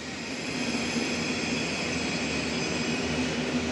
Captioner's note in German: Laute Eisenbahngeräusche